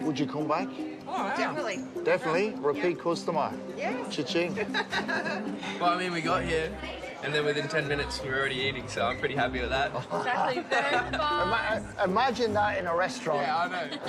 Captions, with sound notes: - Would you come back? - Oh, yeah. - Definitely. - Definitely? Repeat customer. - Yeah. - Cha-ching. [all laugh] - I mean, we got here and then within ten minutes, we were already eating, so I'm pretty happy with that. [both laugh] - Imagine that in a restaurant. - Yeah, I know.